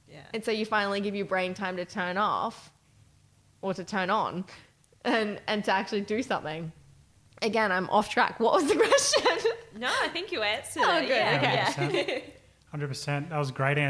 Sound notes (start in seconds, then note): 9.4 chuckles; 10.8 laughing